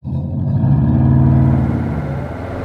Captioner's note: boxer rumble